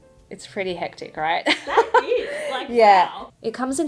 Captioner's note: laughs